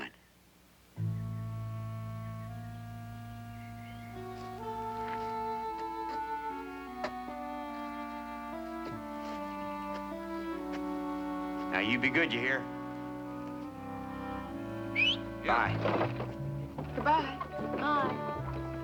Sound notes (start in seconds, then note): 14.8 whistles